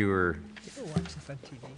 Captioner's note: multiple voices speaking